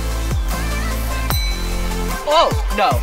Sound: bell dings

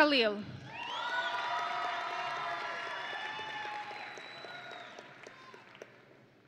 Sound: audience and graduates cheering

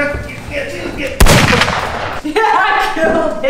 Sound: gun firing

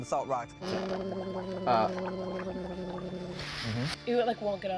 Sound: gurgling

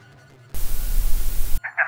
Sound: static noise

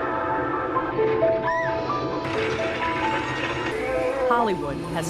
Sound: soft piano music; screams

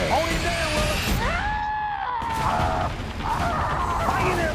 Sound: screaming

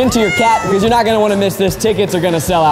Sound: cat meows

